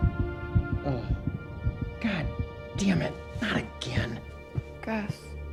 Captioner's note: grunts